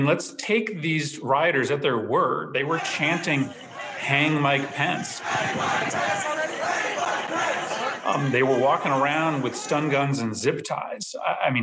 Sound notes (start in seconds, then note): 5.1 crowd chanting